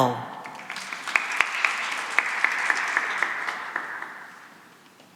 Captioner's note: applause